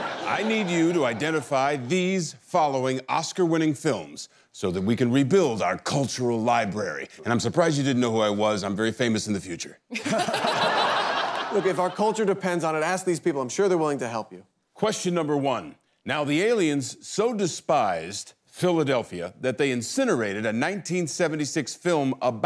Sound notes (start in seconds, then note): 0.0 laughing; 9.9 laughter